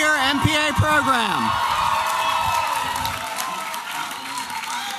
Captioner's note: applause and cheering